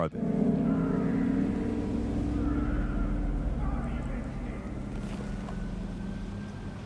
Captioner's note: vehicles rev